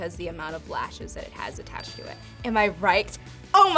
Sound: bell chimes

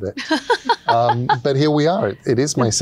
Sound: laughs

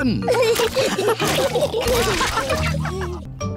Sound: all laughing

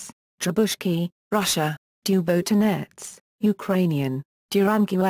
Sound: Ukrainian

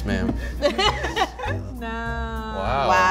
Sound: laughs

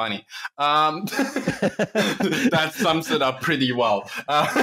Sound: laughter

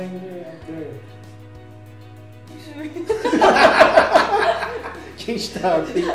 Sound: laughs

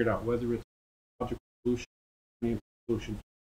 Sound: audio muting

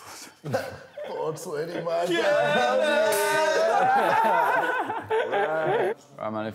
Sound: laughs

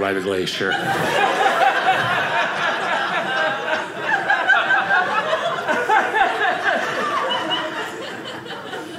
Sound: audience laughing

